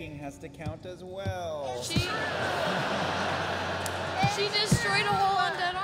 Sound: laughter

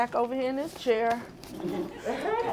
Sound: laughter

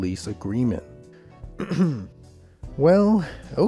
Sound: UK Clears Throat

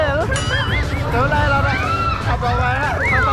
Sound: screaming

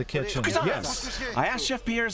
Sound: non-english speech

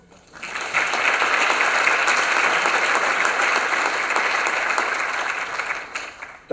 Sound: applause

